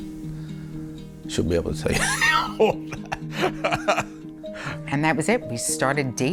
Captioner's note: laughs